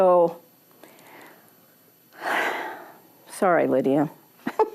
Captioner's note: sigh